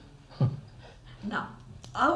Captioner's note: laughs